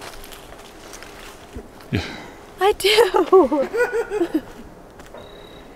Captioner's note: laughter